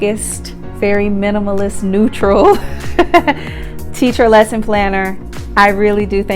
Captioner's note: laughs